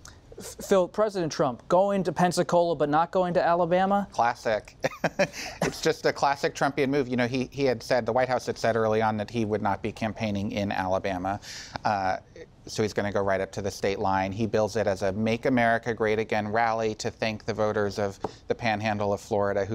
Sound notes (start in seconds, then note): 4.8 laughter